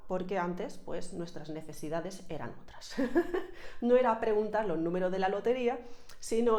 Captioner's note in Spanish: risas